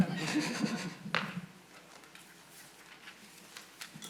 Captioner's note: audience laughing